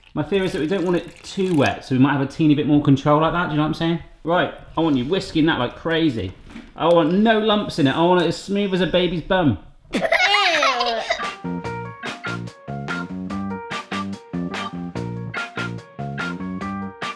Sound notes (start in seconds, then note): 9.9 laugh; 10.4 funky music